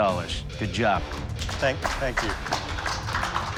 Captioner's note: applause